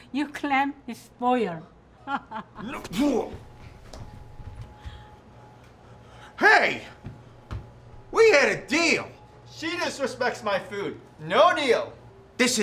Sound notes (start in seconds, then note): 2.1 laughs; 2.6 Butch groans